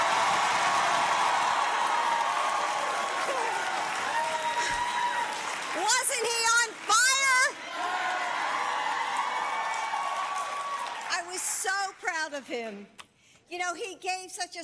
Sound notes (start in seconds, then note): 2.5 applause